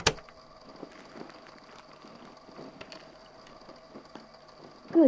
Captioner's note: click; rustling noises